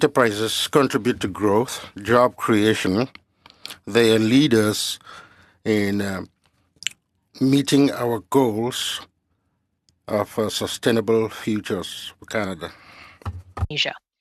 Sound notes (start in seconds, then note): 3.5 speaking french